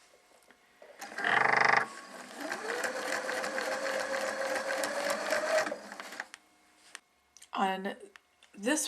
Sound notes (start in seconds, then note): 0.0 silence; 1.0 sound of sewing machine